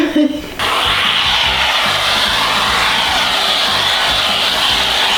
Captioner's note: canned air whooshing